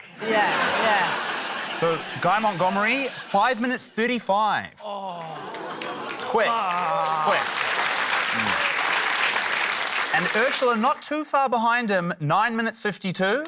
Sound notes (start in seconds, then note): 0.1 laughter; 4.8 david groans; 5.2 applause